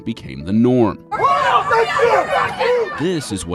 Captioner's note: recruits and instructors yell